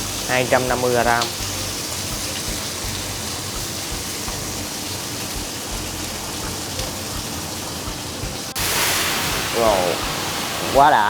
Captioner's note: sizzling sounds & showy Flambé technique, lol